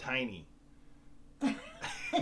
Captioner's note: laughs